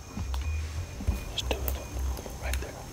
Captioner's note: whispering